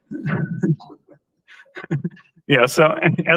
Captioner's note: laughter